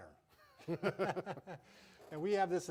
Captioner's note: both laughing